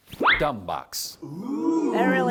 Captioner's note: oooohhhh!